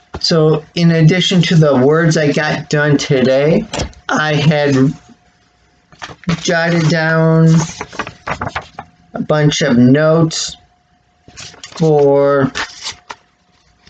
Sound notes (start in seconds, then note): 7.4 rustling of paper